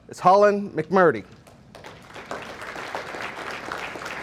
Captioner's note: audience applauding